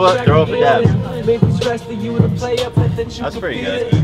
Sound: pfft

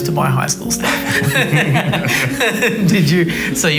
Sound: everyone laughing

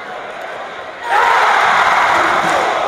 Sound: rhythmic clapping; crowd erupts

